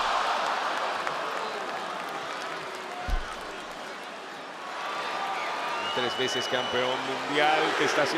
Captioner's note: applause